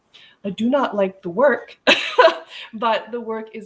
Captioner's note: laughing